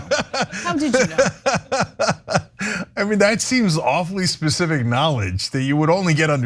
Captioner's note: laugh